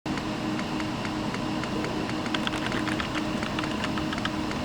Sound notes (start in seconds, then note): 0.1 computer hums